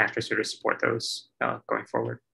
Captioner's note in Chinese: none